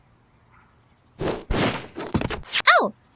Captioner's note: rustling